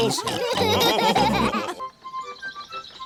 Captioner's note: all laughing